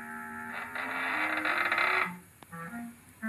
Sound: creak

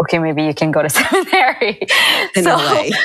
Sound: chuckle

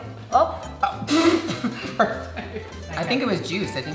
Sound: spit laughs

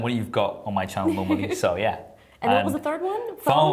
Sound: laughter

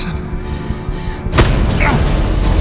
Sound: Derek grunting

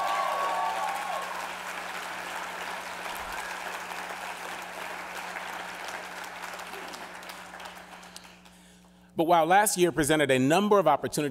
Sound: cheers and applause

